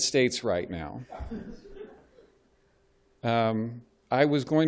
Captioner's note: laughter